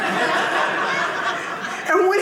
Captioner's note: audience laughing